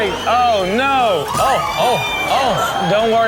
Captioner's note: patrons screaming